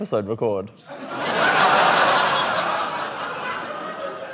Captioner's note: laughter